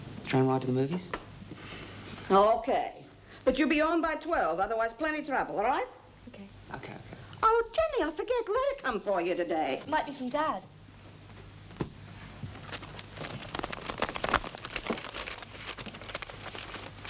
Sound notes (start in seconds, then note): none